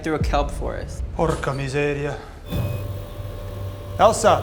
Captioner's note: speaking in a foreign language